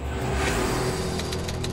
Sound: ominous music; typewriter keys click

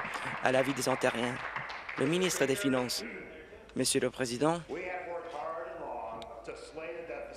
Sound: applause

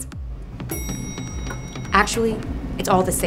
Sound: elevator dinging

